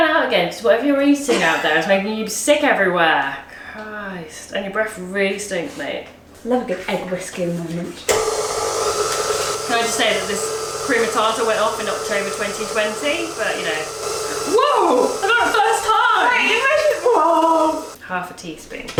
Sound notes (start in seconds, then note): 8.0 mixer whirring; 13.8 mixer whirring